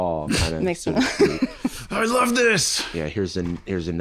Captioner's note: aggressively